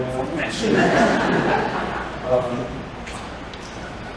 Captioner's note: laughter